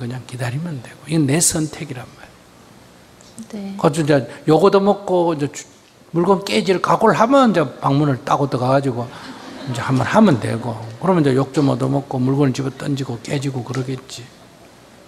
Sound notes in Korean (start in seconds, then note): 9.0 청중 웃음